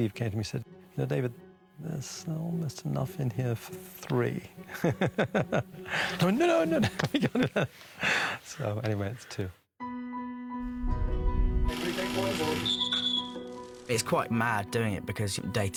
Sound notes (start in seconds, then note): 4.6 laughing; 12.6 whistle tweets